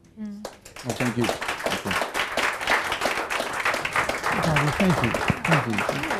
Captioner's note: audience applauding